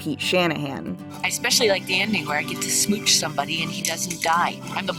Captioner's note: tapping